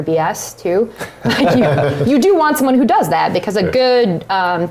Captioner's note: laugh